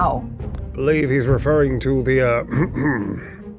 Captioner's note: clears throat